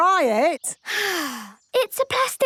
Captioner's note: sighs